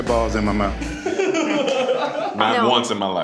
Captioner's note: laughs